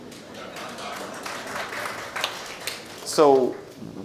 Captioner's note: audience laughs and applauds